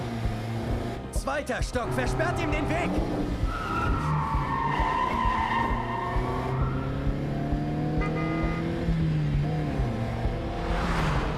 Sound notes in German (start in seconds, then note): 7.8 hupen